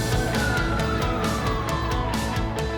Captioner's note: sirens